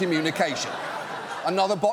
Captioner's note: audience laughs